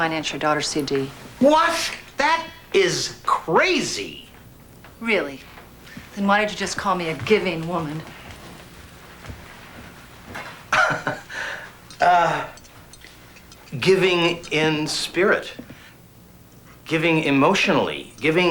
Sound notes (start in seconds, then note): 10.6 laughs